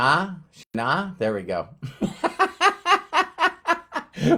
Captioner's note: laughs